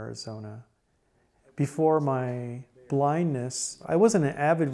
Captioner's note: background mumbling